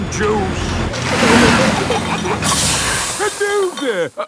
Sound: peppa and george giggling; air hisses

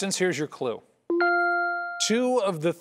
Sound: ding

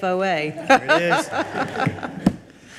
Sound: all laugh

